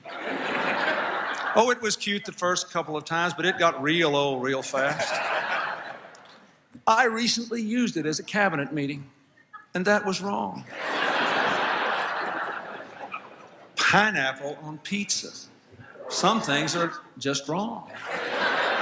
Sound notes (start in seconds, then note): 0.0 laughter; 4.8 laughter; 11.6 laughter